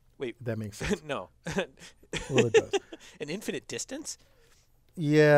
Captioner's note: laugh